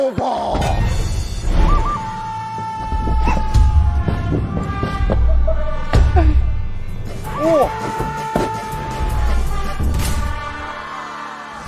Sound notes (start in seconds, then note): 4.1 heavy steps and natural cries